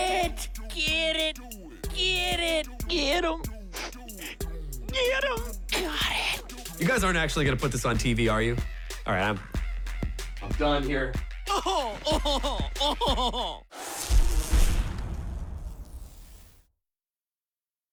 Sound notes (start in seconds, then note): 3.6 sniffles; 11.4 laughs haughtily